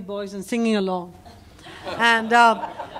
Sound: laughter

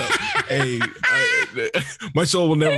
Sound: laughs

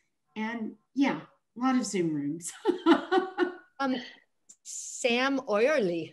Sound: chuckles

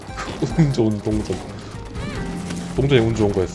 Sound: laughs

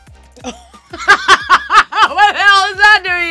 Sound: chill music; laughs loudly; scoffs

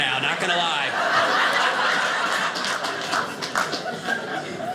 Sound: audience laughing

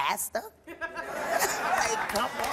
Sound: audience laughs and applauds

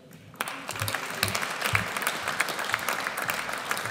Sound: audience applauds

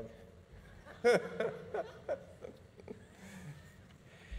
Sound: audience laughing

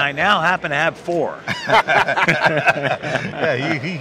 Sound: laughing

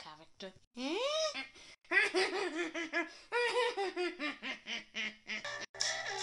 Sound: laughs

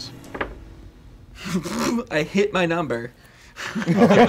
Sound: laughing

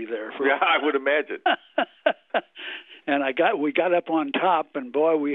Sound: laughs

